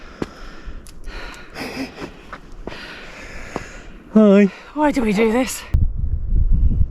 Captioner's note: laughs